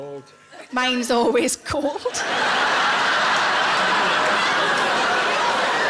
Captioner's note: audience laughing